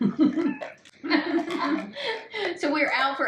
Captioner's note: laughing